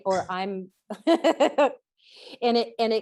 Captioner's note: laughs